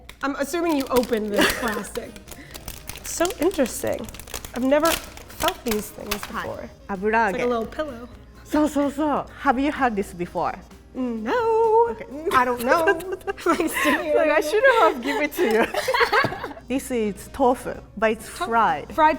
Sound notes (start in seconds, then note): 0.0 speaking in Japanese; 6.4 speaking in Japanese; 8.6 speaking in Japanese; 12.4 laughing